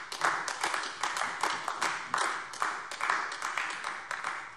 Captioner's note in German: Beifall AfD